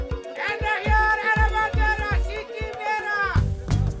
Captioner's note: shouting in foreign language